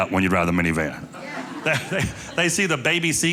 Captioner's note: audience laughing